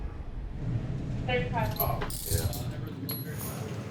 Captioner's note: handcuffs clinking